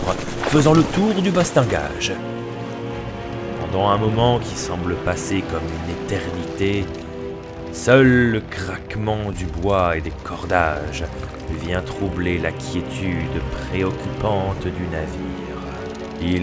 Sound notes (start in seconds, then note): 7.6 only the creaking of the wood and the ropes